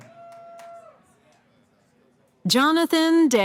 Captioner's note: cheering